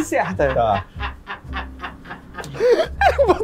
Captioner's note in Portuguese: risadas